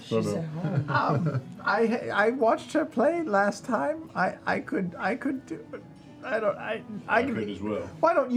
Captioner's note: stutters